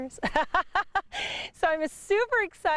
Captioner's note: laughs heartily